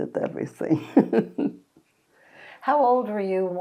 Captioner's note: laughing